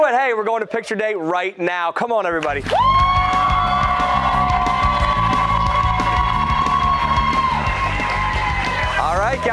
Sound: cheers and applause

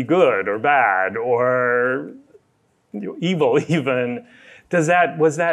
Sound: laughs

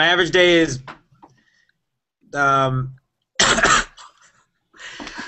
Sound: coughing

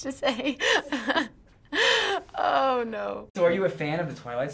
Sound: laughs; snickers

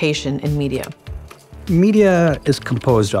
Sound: machine clicking

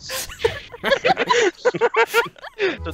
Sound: laughter

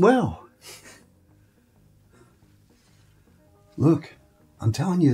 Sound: soft laughing

